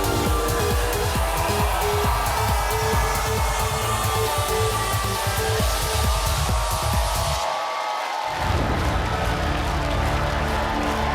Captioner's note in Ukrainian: оплески